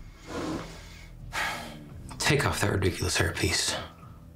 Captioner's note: sighs